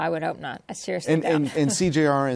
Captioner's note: laughs